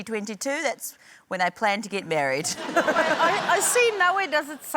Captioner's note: laughter